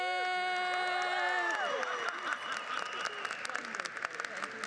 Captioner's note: crowd applauds